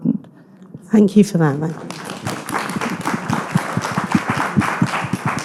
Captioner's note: audience clapping